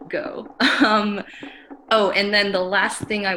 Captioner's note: giggles